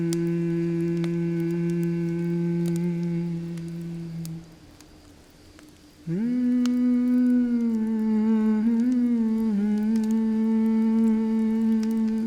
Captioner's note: humming continues